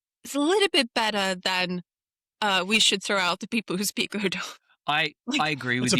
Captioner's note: laughs